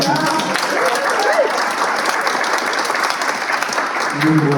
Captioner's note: applause